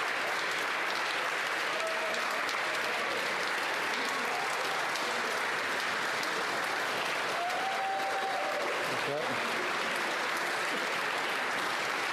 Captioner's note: applause